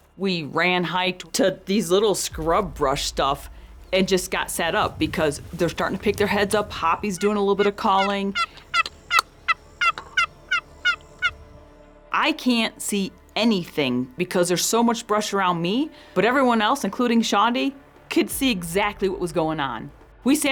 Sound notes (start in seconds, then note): 8.5 hoppy turkey calling